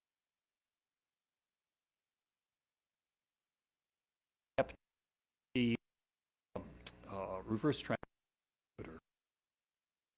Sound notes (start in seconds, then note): none